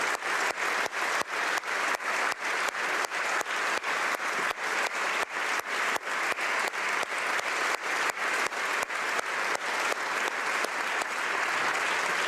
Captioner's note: applause